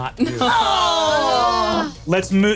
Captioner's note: groans